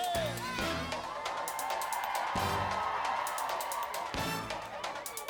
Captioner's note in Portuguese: audience cheering